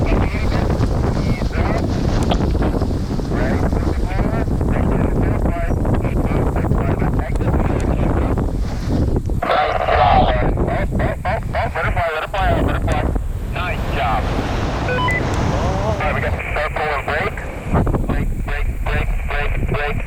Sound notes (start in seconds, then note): 0.1 roaring wind drowns out the radio; 14.7 radio beeps